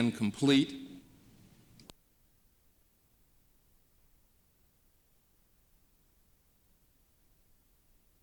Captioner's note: no audio